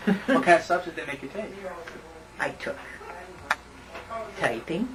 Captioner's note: laughter